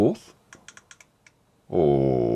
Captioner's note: click-click-click